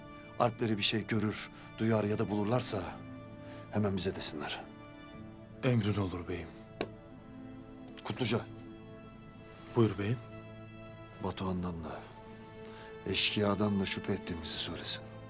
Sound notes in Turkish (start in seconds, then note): 6.7 El vurma sesi